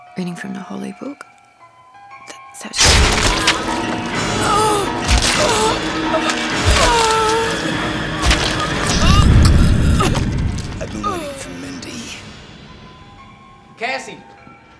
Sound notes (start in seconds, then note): 2.7 Estabrook groans; 2.8 tense music